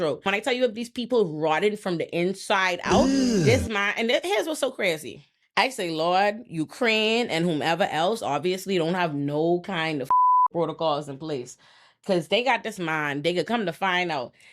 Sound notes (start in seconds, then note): 10.1 beep